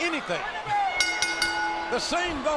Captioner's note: bell rings